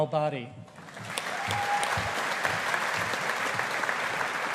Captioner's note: audience applauding